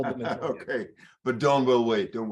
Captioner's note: laughs